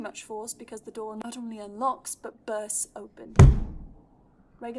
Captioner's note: door bangs